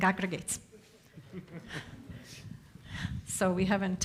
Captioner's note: speaker laughs